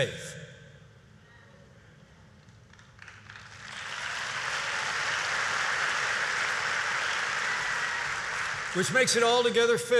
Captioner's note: applause